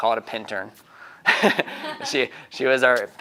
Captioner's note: laughing